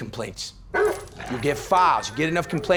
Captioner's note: dog barks